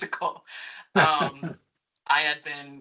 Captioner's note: chuckling